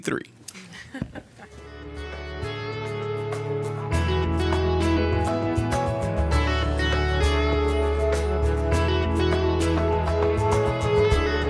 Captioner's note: laughter